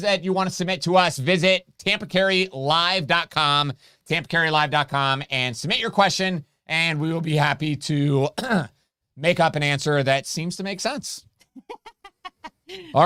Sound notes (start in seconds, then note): 8.3 coughs; 11.4 laughing